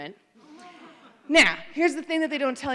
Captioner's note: laughter